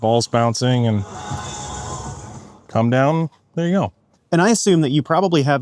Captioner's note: arena natural sounds